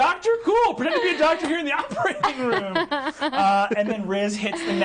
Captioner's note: laughing